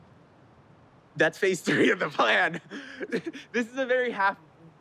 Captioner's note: laughs